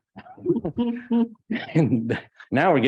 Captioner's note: trustees chuckling